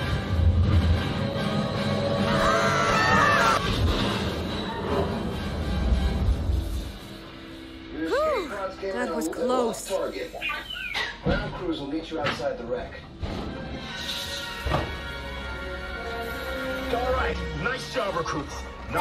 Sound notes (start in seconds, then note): 2.3 girls and screaming; 3.6 crashing impacts; 10.1 Droid chirps